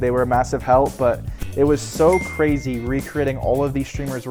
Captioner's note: bell dings